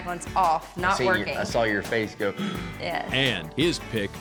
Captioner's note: gasps